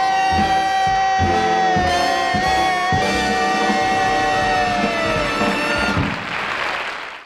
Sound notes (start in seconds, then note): 5.8 audience clapping